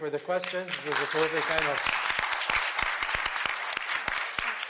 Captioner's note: audience applauding